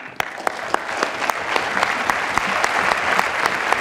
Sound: applause

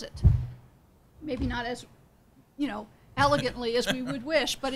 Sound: laughing

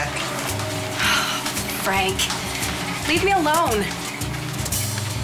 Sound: sighs

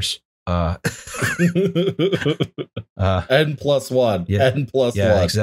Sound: laughter

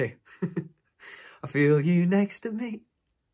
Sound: laughs

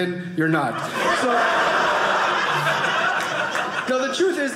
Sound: audience laughing

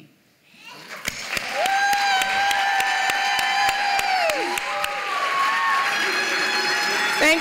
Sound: applause

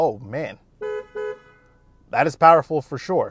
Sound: car horn beeps

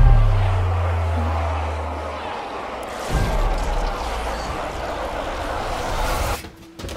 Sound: people screaming; zombies growling

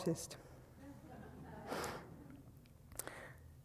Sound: audience laughing

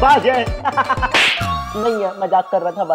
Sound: laughing

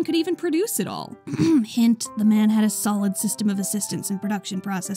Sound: ahem

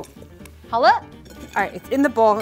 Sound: speaking in mandarin

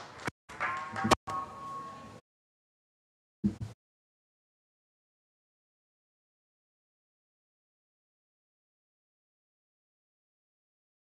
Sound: audience applauds

